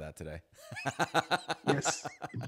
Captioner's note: laughing